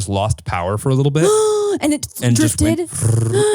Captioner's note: imitates motor